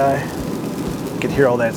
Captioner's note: snow sizzling